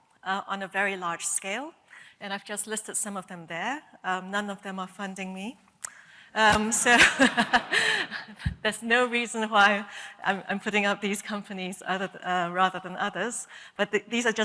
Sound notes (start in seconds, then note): 6.8 laughter